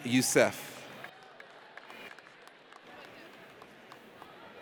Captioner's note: audience applauds